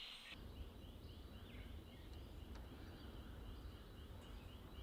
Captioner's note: wind blowing